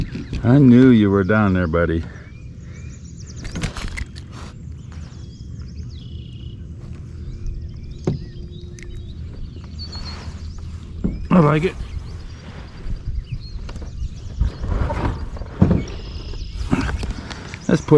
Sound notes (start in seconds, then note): 3.6 fish thudding; 5.4 birds chirping; 8.5 hook clicking; 14.7 shoes thudding